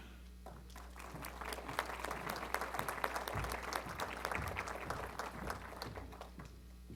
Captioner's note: applause